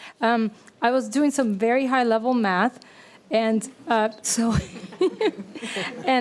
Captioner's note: laughs